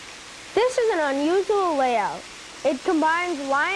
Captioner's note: voiceover